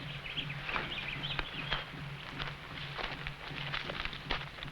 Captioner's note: birds chirping